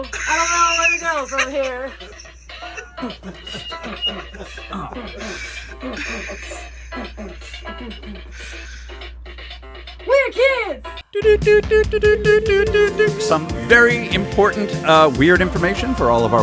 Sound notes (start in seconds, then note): 12.7 morse Code noises